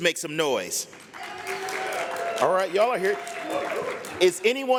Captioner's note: applause